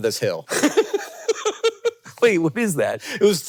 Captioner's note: Jason laughing